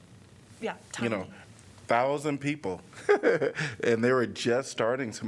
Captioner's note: laughter